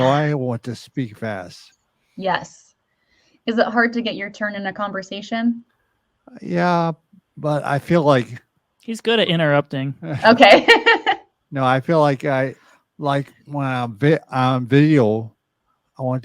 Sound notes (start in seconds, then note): 11.5 chuckles